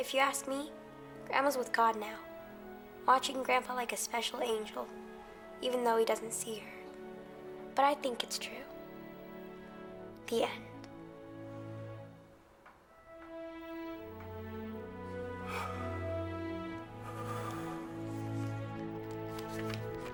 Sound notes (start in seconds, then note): 13.2 emotional music; 14.8 Bill breathes deeply